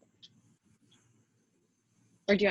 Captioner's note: silence